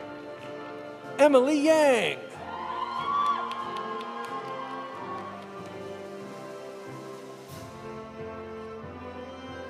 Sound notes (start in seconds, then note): 2.4 audience cheering; 2.4 audience applauding